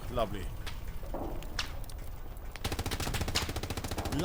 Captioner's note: gunshots